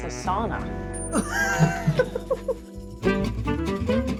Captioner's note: both laugh